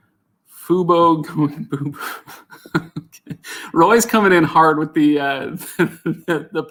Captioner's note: laughs